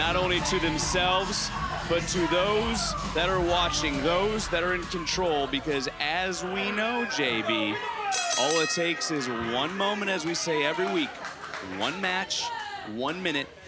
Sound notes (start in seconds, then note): 8.1 bell rings